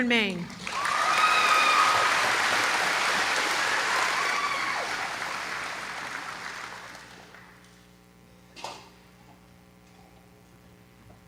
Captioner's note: applause